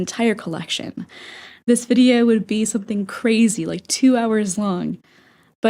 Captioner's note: inhale